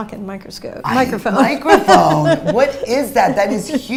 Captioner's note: laughs